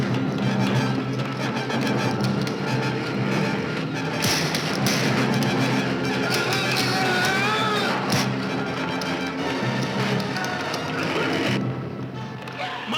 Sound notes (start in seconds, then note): 7.1 yelling; 9.3 dramatic music